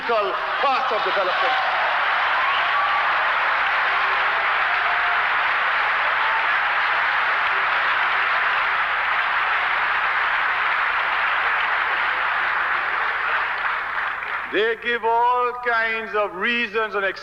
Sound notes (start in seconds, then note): 1.4 applause